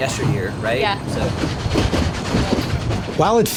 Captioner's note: train chugging